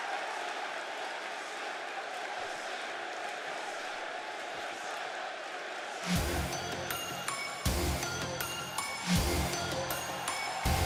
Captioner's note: crowd cheering